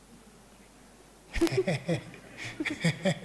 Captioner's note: audience laughs